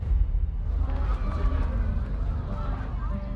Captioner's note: talking in background